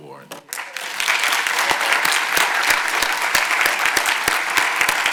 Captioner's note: audience applauding